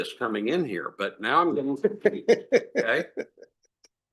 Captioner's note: laugh